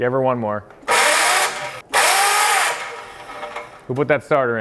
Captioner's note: motor trilling